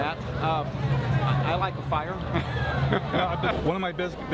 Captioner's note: laughing